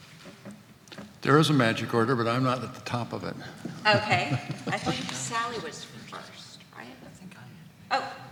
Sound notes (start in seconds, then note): 3.6 laughs